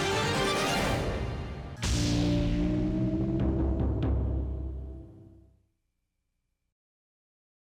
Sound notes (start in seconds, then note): 1.8 deep drumming; 2.0 electronic zap